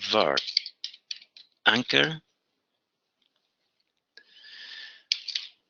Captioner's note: typing